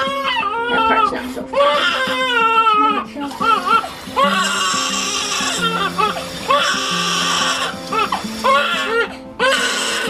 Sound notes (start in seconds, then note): 4.4 baby crying